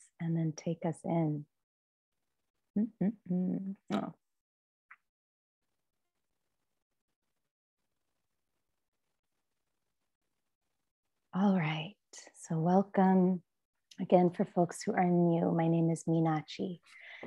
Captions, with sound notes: and then take us in. [hums] Welcome. Again, for folks who are new, my name is Meenadchi.